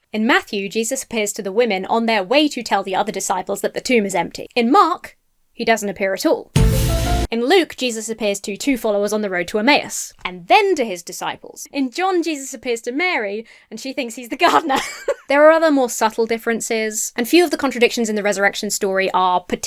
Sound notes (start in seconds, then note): 14.4 laughs